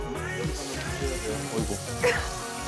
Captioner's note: water splashes